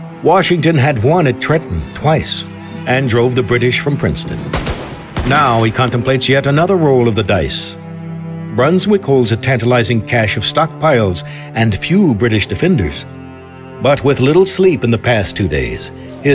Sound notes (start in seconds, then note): 4.5 gun shots